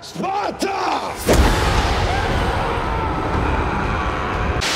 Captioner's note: man yells